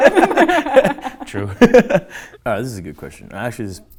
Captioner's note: laughing; laughs